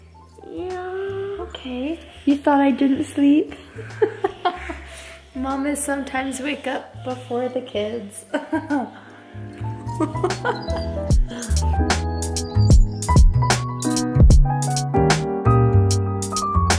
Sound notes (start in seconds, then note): 3.5 laughs; 9.6 laughs; 11.0 light jazz and bird chirping